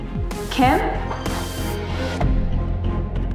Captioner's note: phone ringing